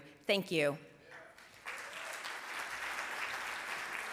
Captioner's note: applause